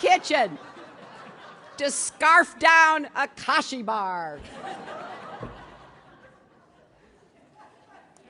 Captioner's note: laughter